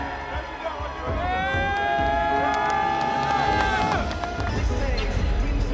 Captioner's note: players cheering